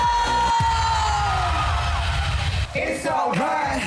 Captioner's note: audience cheering